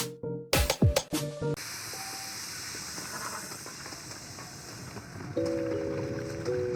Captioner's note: wind and footsteps